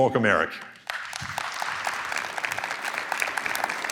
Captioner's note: applause